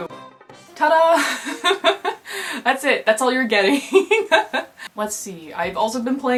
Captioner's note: laughter